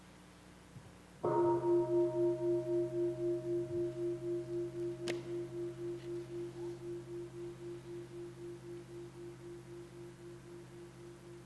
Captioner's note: bell